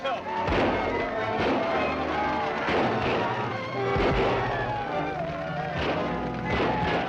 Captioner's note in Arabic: إطلاق نار; صراخ; موسيقى أوركسترا مثيرة